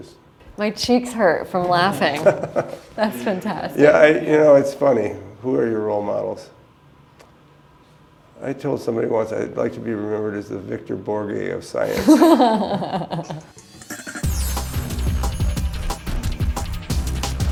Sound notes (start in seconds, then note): 11.8 laughter